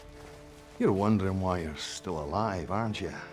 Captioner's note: scottish accent